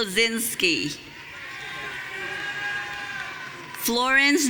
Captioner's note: audience cheering